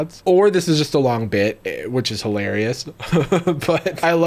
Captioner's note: laughing